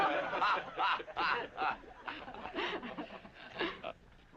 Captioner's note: all laughing